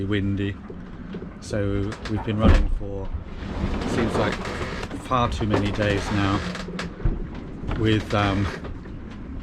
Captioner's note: thump!